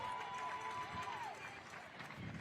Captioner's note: applause